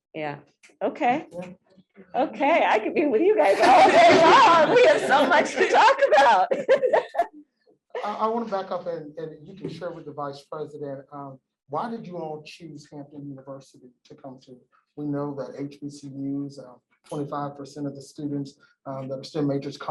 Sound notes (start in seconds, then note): 3.4 laughter